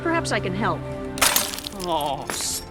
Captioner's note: metal crunching